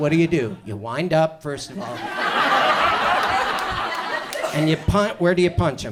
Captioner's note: audience laughs